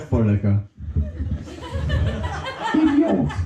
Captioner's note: bursting laughter